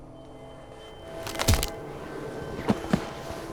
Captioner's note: snap